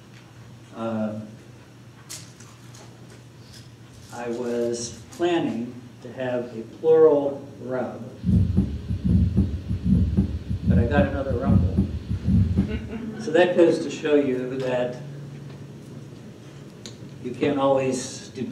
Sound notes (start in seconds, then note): 8.2 heat beating